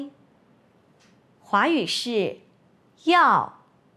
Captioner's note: in Mandarin